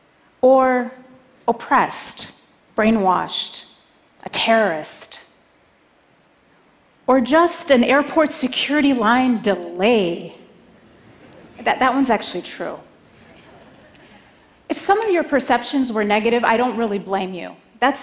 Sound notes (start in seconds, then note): 13.0 laughter